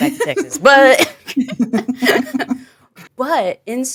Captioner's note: chuckle